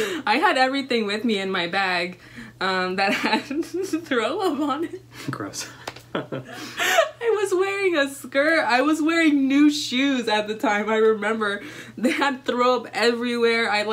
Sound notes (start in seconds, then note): 5.3 laughs; 6.1 laughter